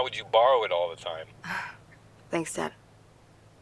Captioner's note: scoffs